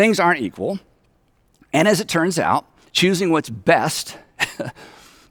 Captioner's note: chuckles